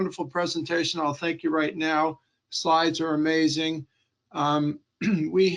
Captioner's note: clearing throat